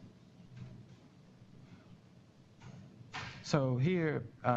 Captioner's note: pause